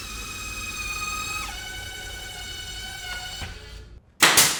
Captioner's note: tool drilling